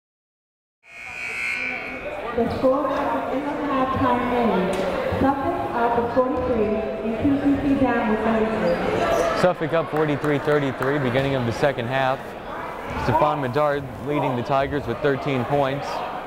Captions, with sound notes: (buzzer blaring) (muffled speech over an intercom) Suffolk up 43, 33, beginning of the second half. Stephon Medard leading the Tigers with 13 points,